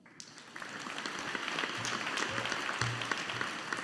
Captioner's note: audience applauding